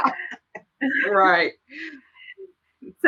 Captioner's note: laughing